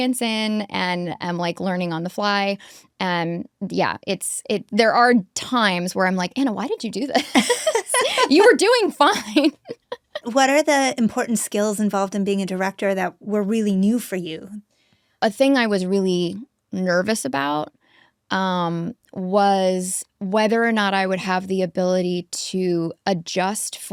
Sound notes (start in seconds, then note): 7.2 both laughing; 9.9 Anna laughs